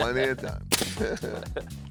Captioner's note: both laugh